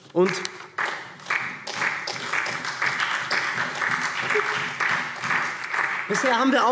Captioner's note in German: Beifall SPD